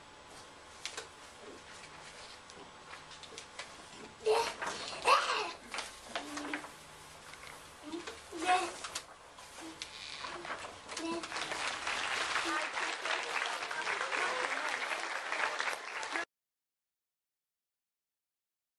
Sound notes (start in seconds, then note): 4.9 laughs; 11.1 applause